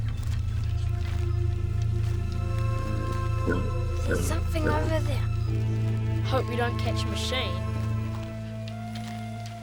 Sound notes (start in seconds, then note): 0.0 ominous music; 2.9 pig grunting